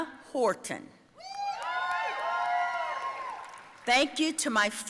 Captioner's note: audience cheering